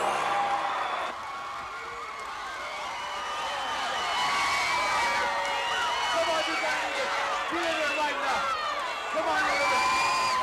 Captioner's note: crowd cheering